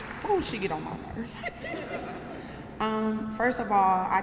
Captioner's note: laughter